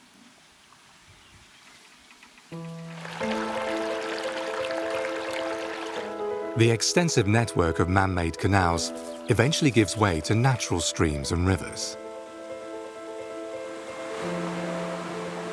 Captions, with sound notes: (water sloshes) The extensive network of manmade canals eventually gives way to natural streams and rivers. (gentle music)